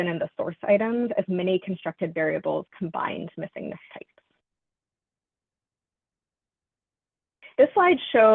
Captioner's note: audio cuts out